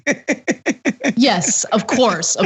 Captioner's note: laugh